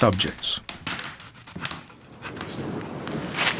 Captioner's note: quill scribbles; snow crunches